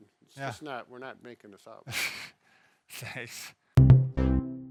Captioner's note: laughs